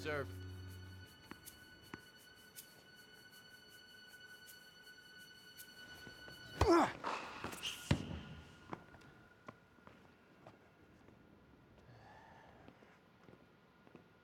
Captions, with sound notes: - Second serve. (ball bouncing) (suspenseful music continues) (racket smacking) (Marshall grunting) (sneaker squeaking) (ball bouncing)